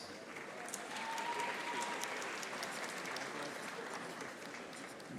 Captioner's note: audience applauding